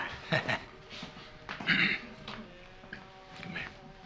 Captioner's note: Johnny chuckles